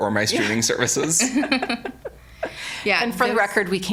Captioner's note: all laughing